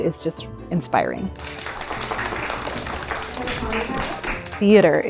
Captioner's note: audience clapping